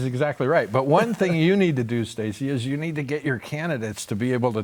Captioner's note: laughter